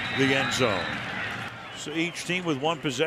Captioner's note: whistle